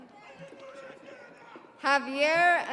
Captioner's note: audience cheering; audience applauding